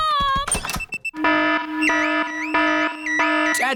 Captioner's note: alarm blaring